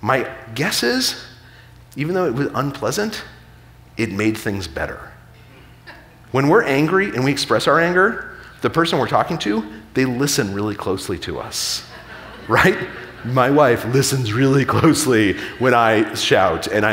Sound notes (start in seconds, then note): 5.4 audience member chuckling; 11.8 audience laughing